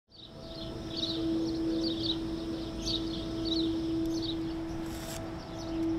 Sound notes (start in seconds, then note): 0.1 birds chirping